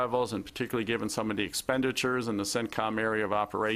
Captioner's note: speaking quickly